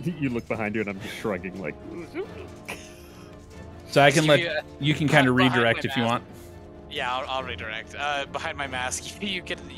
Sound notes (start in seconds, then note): 2.0 noises of confusion